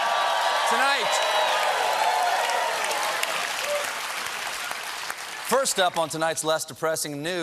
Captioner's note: cheering